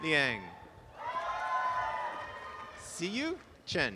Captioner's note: applause and cheering